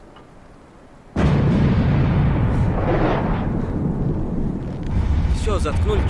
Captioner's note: sound of rear battery volley